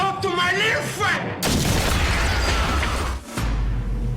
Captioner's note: gun firing